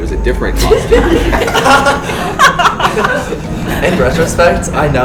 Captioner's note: laughing